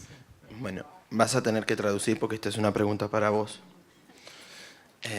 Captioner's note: foreign language